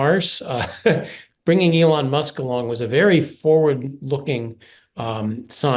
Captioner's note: laugh